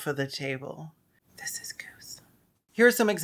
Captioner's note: whispers